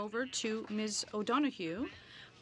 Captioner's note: speaking French